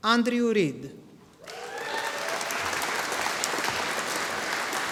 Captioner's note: audience applauding